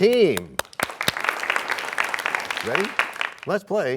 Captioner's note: applause